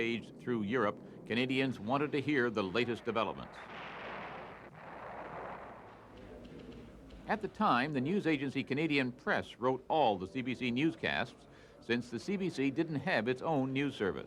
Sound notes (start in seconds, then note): 6.0 explosions